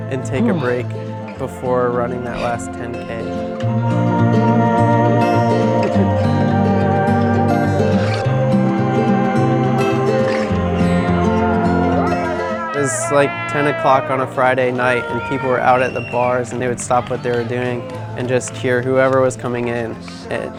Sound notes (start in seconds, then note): 12.1 cheering